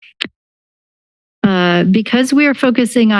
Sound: pause

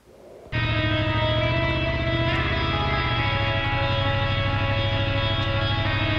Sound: motorcycle engine roaring; rock music

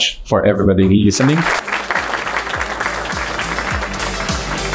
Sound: applause

